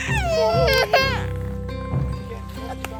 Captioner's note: cries